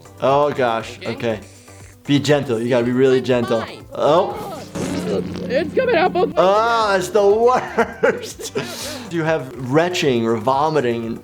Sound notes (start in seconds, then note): 4.3 Gene flatulating